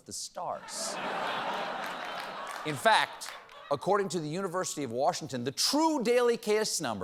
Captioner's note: laughter